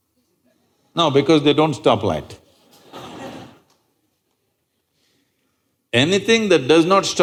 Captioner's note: laughter